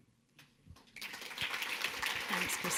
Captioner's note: audience clapping